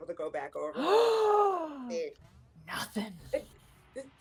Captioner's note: gasping